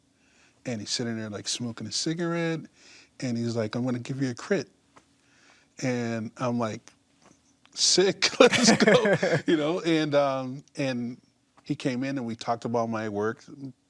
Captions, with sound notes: And he's sitting there, like, smoking a cigarette, and he's like, "I'm going to give you a crit." And I'm like, "Sick!" (laughs) Let's go, you know? And he came in and we talked about my work.